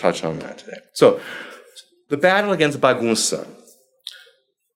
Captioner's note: foreign language